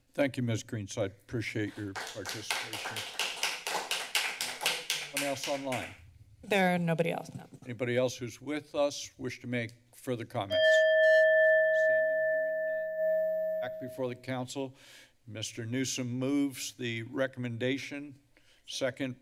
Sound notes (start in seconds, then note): 1.6 applause; 10.5 timer sounds